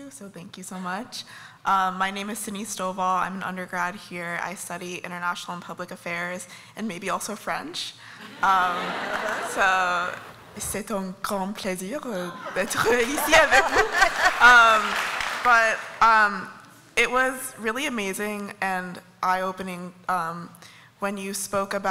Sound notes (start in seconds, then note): 8.2 laughter; 9.8 speaking french; 12.3 laughter